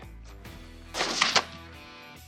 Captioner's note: gunshot